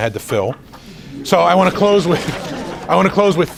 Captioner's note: audience chattering